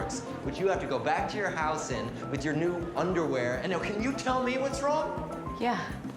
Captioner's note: none